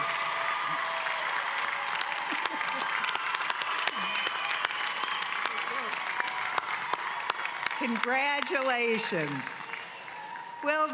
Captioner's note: cheering and applause